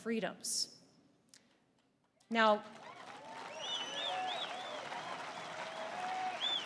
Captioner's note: applause